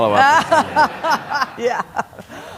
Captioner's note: laughter